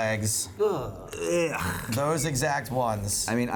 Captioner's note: disgusted sound